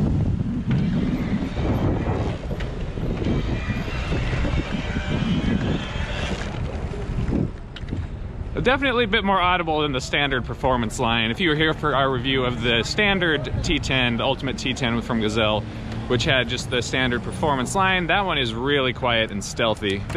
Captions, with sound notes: (wind gushing) (electric motor whining) Definitely a bit more audible than the Standard Performance Line. If you were here for our review of the Standard T10, the Ultimate T10 from Gazelle, which had just the Standard Performance Line, that one is really quiet and stealthy.